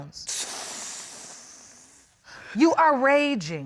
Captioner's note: exhales